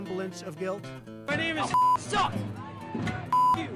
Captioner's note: beep